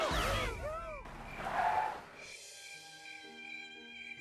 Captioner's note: tires skidding